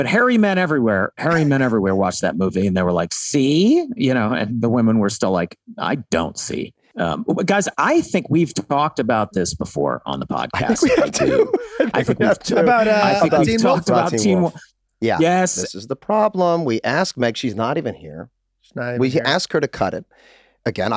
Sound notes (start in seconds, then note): 10.6 Rob laughing amusingly